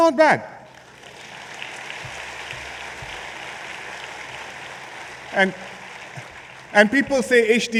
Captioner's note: applause